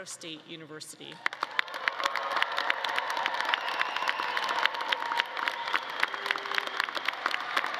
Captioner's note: all clapping; audience cheering